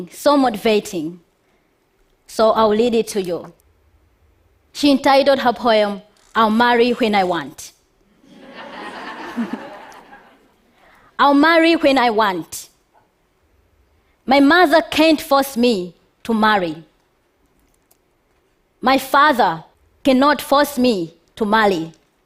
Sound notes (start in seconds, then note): 8.2 laughter